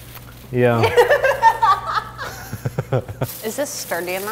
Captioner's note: both laughing